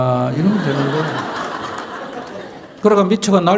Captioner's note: audience Laughter